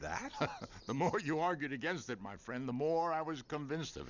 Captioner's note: laughs